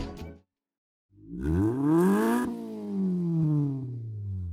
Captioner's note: engine revs